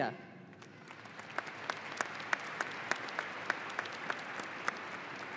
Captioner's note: audience applauding